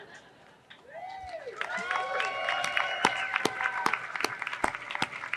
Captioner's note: audience laughing; audience cheering